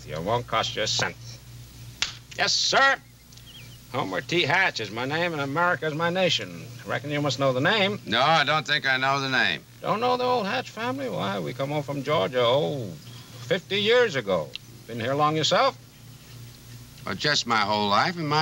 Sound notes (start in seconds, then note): none